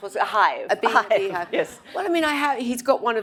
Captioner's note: all laugh